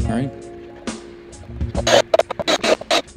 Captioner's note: drilling continues